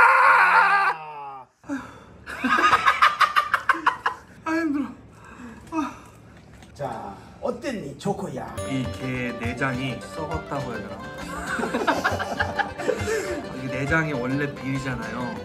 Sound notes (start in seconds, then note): 1.6 after finishing it, sighing